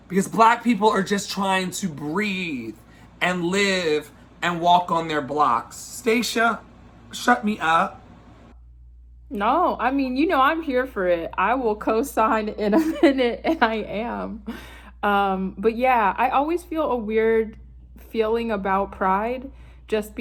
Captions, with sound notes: Because Black people are just trying to breathe and live and walk on their blocks. Stacia, shut me up. - No, I mean, you know, I'm here for it. I will co-sign (laughs) in a minute, I am. But yeah, I always feel a weird feeling about Pride just